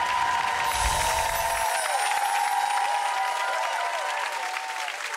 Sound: cheering; whimsical sparkling

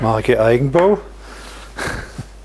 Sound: he laughs softly

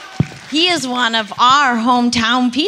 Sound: audience applauding

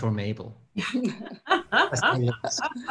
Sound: laughter

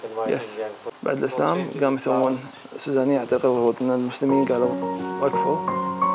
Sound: speaking foreign language; soft music

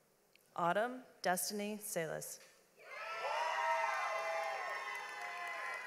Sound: audience applauds

